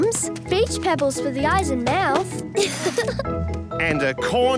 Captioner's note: laughing